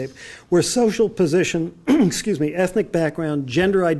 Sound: clears throat

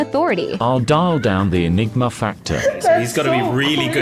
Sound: male AI Voice

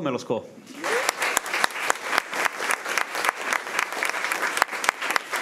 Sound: crowd clapping and cheering

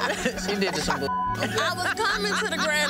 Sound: group laughing; beep

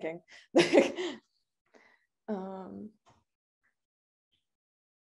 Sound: laughing

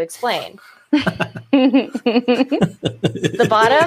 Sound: laughs

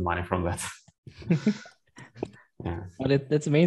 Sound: laughs

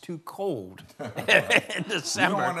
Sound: laughs

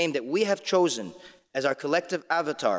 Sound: none

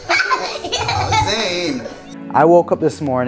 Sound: laughing

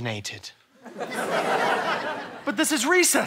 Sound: laughter

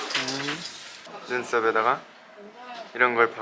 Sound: sparkle, sparkle

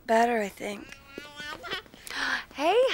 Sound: blond child blabbering; gasps

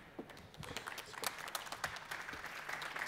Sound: applause

